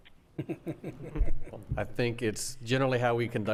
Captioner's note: laughing